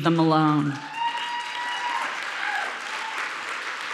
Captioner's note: audience cheering; audience applauding